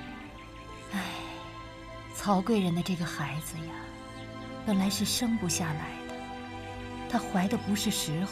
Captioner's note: sigh